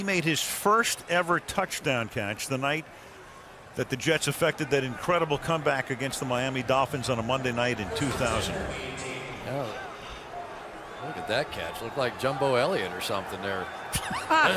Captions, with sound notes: And he made his first ever touchdown catch the night that the Jets affected that incredible comeback against the Miami Dolphins on a Monday night in 2000. [stadium announcements] Oh, look at that catch. It looked like Jumbo Elliott or something there.